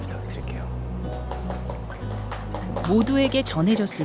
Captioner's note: applause